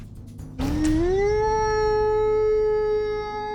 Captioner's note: howls